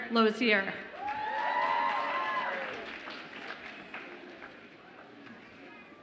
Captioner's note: audience applauds and cheers